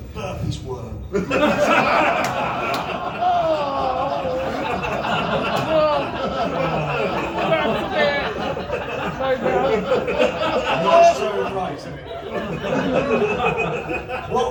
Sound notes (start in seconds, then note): 2.7 laughter & grossed out groans!; 9.9 laughter